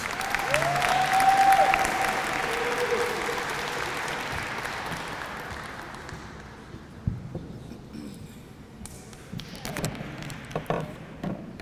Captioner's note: applause